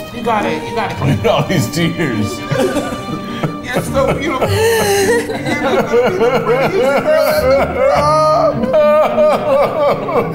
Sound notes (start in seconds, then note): 3.9 crying